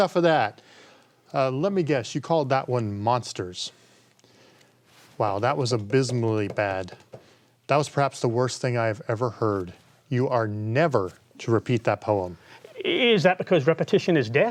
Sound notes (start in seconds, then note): none